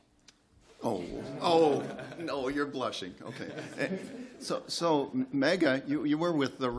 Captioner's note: laughter